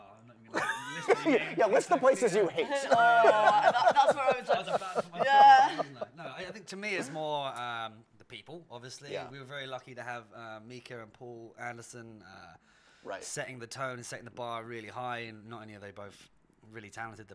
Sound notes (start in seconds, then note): 2.8 laughter; 5.4 gasps